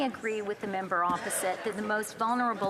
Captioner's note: speaking French